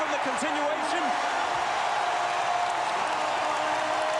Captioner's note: cheering and applause